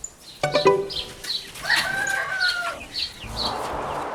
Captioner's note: cackling